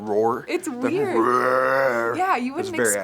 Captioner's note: roars